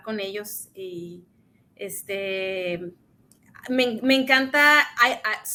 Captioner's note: speaks in Spanish